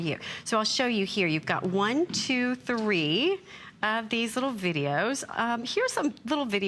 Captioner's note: counting